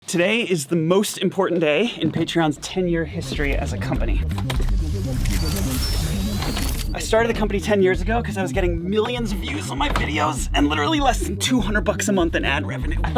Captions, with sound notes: Today is the most important day in Patreon's 10 year history as a company. (electronics whirring) I started the company 10 years ago 'cause I was getting millions of views on my videos and literally less than 200 bucks a month in ad revenue.